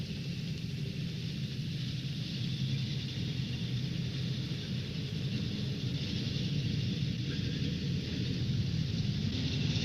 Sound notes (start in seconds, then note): 5.1 car engine rumbling